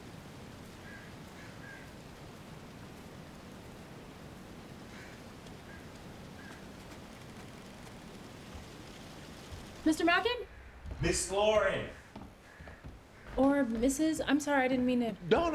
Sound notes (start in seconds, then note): 4.8 crows cawing continues; 9.4 footsteps tapping